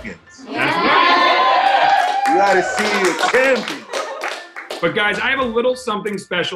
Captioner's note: applause